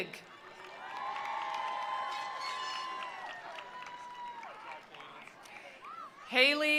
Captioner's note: attendees cheering; attendees applauding